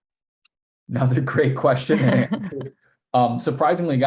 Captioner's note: both laughing